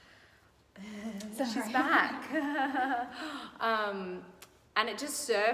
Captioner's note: laughing